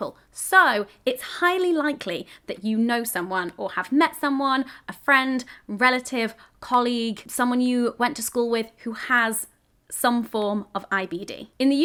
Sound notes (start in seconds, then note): none